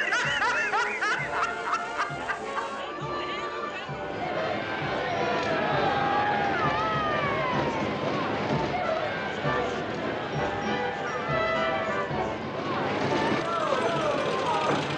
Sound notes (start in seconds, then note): 4.6 cheering